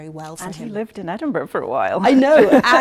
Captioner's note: laughing